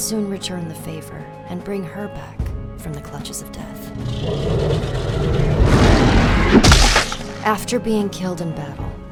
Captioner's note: roaring, crunch